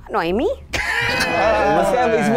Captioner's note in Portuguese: risadas